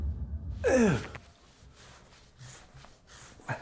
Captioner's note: grunts